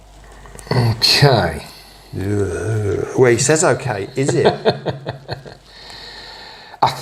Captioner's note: laughter